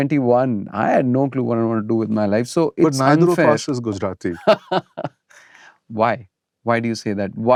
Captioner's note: laughter